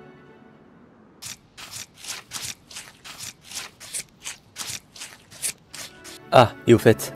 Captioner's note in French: Bruits de couteau